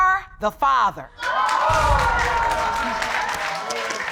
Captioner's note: audience applauding